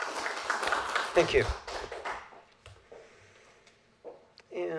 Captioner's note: applause